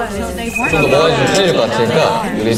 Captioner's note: cheers